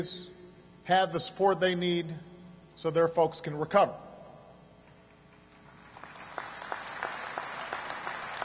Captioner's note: applause